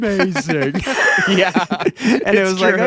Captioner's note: laughing